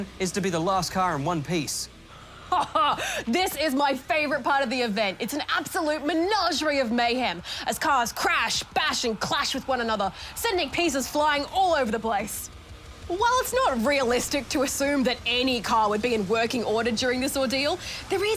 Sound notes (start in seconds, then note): 2.3 laughs